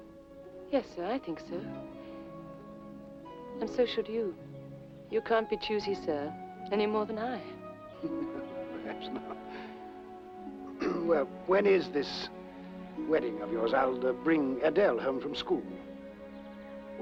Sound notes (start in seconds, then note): 8.0 chuckles